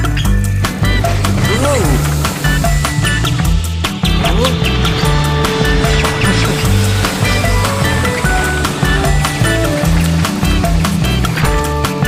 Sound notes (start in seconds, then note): 0.8 car engine purring; 4.7 plane engine roars; 6.8 cheerful upbeat music